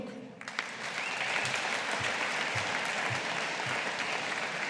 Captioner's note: audience applauding